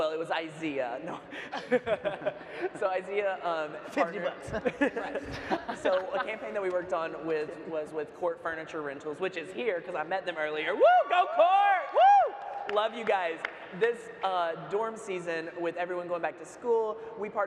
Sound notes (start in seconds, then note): 3.9 laughs; 10.8 audience member hoots